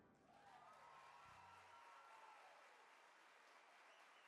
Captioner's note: audience applaud